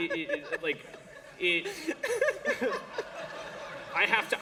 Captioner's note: laughter